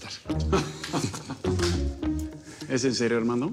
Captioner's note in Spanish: Risas